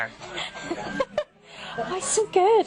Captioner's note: laughing